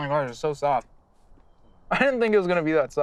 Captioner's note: chuckles